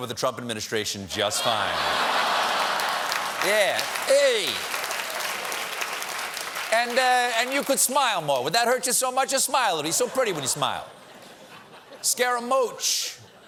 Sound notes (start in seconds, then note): 0.0 audience reacts; 6.4 applause